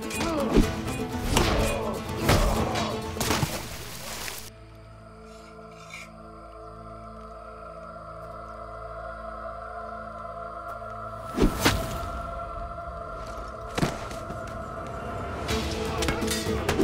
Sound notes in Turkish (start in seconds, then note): 11.4 Bıçak fırlatma sesi; 15.3 Müzik - Hareketli